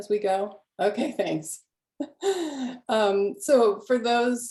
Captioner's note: laugh